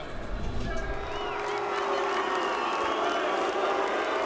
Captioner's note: booing and whistling